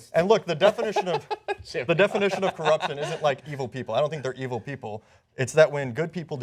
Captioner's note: laughter